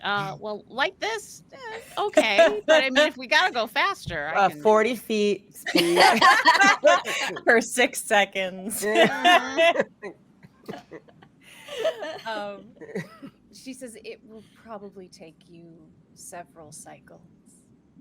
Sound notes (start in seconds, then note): 5.7 all laugh; 8.8 laughs